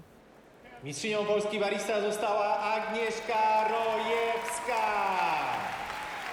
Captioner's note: announcer speaking in foreign language; cheering